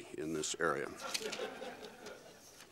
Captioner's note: laughter